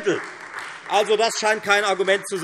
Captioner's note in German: Beifall Freie Demokraten